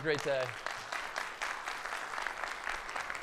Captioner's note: audience applauds